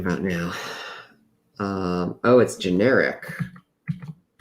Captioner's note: sighs